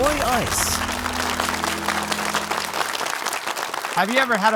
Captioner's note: audience applauding